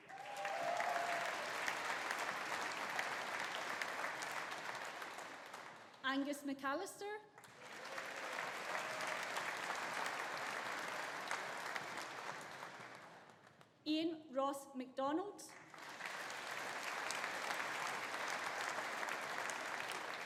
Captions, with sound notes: (AUDIENCE APPLAUDING) (AUDIENCE CHEERING) Angus McAllister. (AUDIENCE APPLAUDING) (AUDIENCE CHEERING) Iain Ross McDonald. (AUDIENCE APPLAUDING)